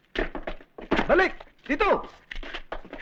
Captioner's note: non-english speech